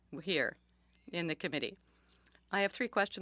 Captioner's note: speaking French